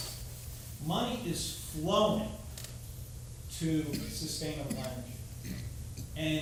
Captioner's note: somebody coughing